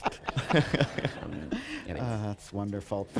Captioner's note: laughter